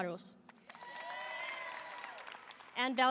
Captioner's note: audience applauding; audience cheering